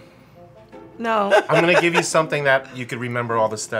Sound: laughs

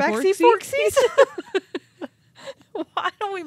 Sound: chuckling

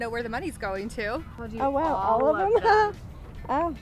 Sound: laughing

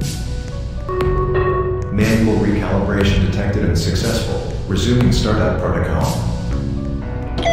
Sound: announcement Chime

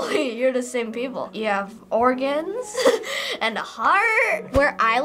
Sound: giggles

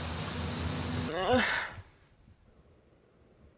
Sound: sigh

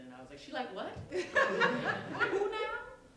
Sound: laughter

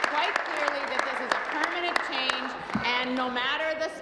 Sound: applause

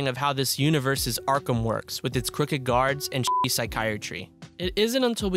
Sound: cussing

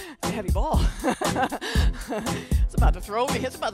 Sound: chuckling

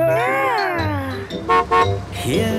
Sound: horn honking

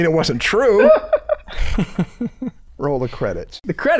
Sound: chuckle

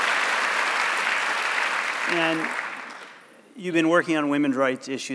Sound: applause

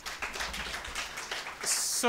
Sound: audience applauds

